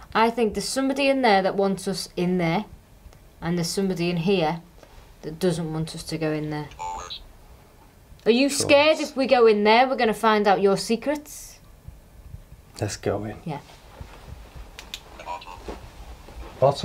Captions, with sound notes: I think there's somebody in there that wants us in there and there's somebody in here that doesn't want us to go in there. (robot voice sounds) Are you scared if we go in there we're going to find out your secrets? - Let's go in. - Yeah. - [Robot Voice] Bathroom.